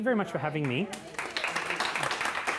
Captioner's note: applause